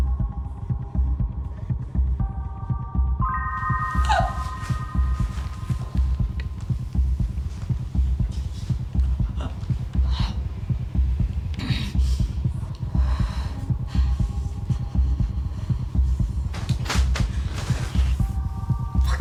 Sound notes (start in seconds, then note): 6.2 Jane gasps, breathes intensely